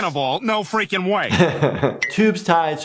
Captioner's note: laughing